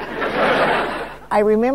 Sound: audience laughing

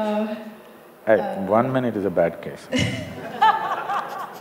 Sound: laughter

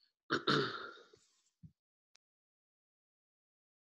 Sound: clears throat

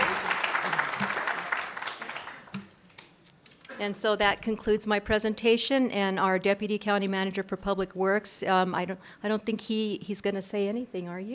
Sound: applause

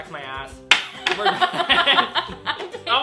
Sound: laughs

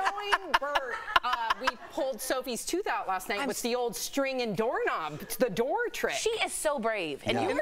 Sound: laughter

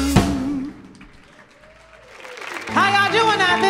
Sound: audience applauds

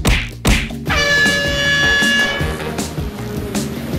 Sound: air horn blowing; energetic music

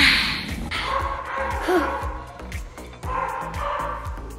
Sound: dog barks

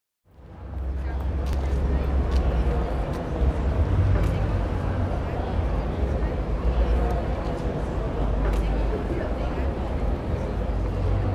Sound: crowd noises, footsteps, distant traffic

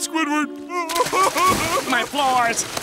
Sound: crying

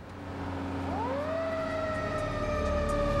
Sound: sirens

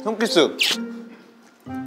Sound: Smooch

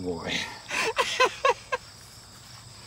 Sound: laughing

